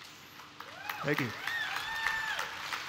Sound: applause

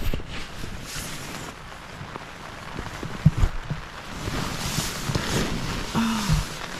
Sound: rain on tent

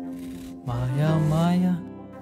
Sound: Sam humming

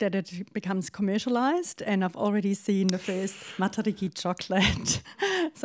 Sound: laughs

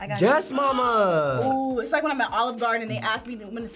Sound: gasps

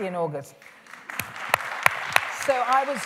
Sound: applause

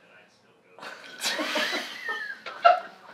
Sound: laughter

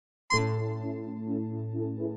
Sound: honk

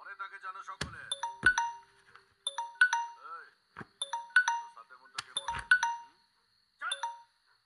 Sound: phone rings

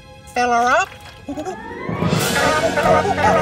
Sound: chattering

